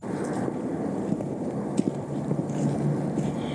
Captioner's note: foot steps